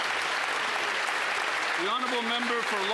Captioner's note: applause